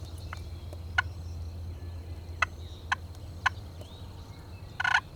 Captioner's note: turkey call